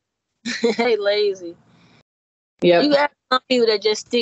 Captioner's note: chuckling